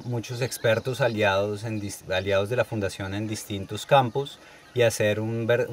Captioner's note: birds